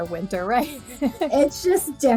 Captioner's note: laughs